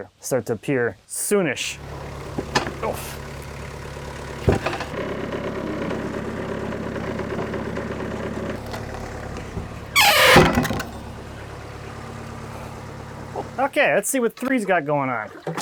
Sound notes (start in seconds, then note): 3.8 engine rumbling; 10.7 slab banging